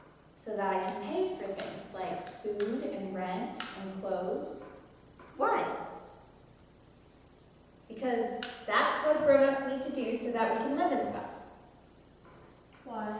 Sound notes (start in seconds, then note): none